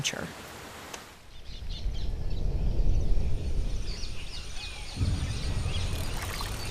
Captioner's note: birds chirping